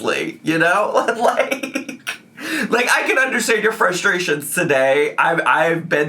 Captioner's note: laughing